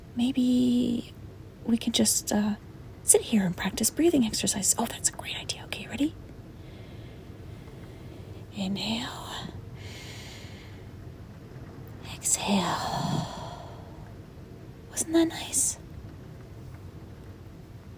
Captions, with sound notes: Maybe... We can just uh... Sit here and practice breathing exercises. Oh! That's a great idea! Okay, ready? Inhale... *inhales* Exhale... *exhales* Wasn't that nice?